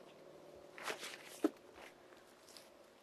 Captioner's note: paper crinkling